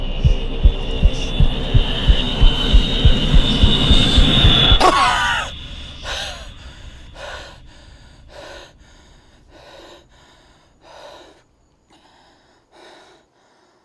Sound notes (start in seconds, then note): 4.8 Andrew coughs; 6.0 Andrew exhales